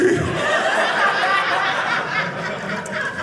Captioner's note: audience laughing